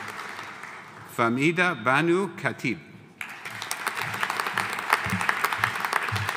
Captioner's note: audience applauding